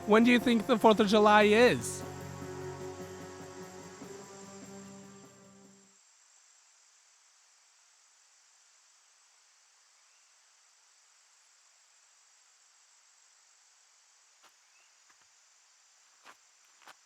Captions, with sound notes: When do you think the 4th of July is? (insects buzzing)